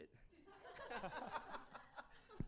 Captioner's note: laughter